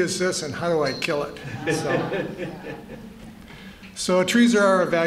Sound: laughter

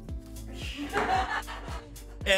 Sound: laughs

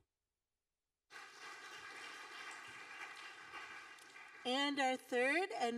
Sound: audience applauding

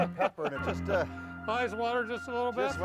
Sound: laughter

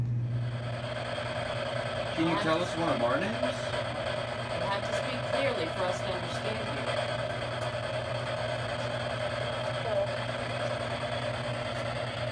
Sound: spirit box scanning

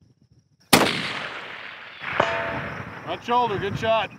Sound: rifle firing

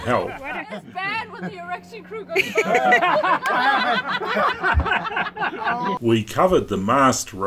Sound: laughter

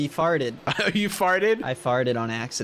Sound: laughs

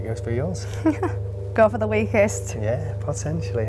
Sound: giggles

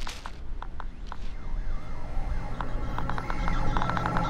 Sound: clicking increases

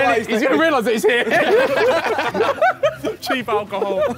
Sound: laughing

